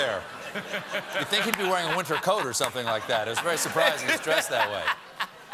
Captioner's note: laughter